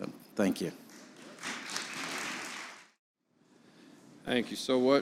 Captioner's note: audience applauding